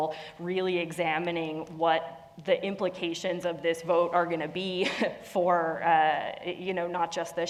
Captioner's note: laugh